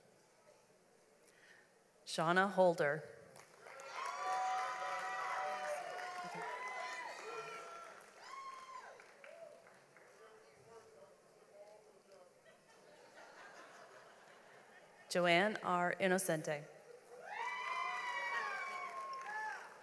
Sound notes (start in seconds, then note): 3.4 audience applauds; 10.3 audience laughs; 17.2 audience applauds